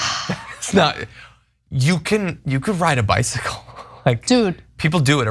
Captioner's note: laugh